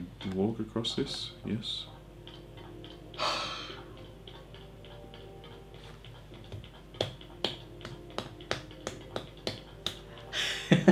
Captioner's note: gasps and quietly claps and laughs – That’s…